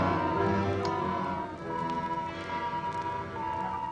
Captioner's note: machines beeping